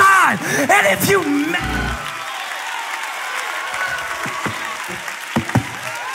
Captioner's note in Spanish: Aplausos